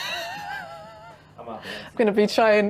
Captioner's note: laughs